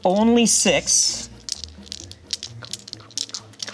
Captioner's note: dice clattering